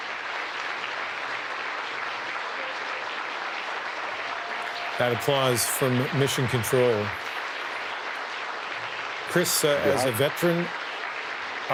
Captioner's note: cheering and Applause